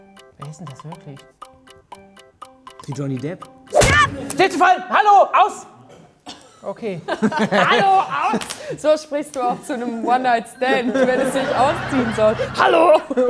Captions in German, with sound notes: Wer is 'n das wirklich? (Schelmische Musik) Wie Johnny Depp. - Stifte fallen! Hallo! Aus! (Lachen) Okay. "Hallo, aus!" So sprichst du auch zu 'nem One-Night-Stand, wenn es sich ausziehen soll: "Hallo!"